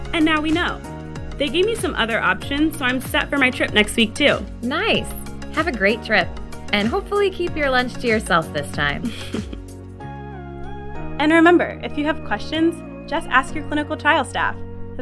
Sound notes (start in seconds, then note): 9.0 chuckles